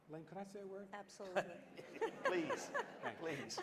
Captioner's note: laughter